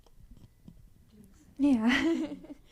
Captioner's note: laughs